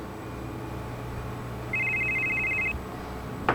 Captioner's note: phone rings